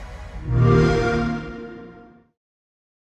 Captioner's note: xbox sound